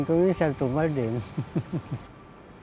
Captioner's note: giggles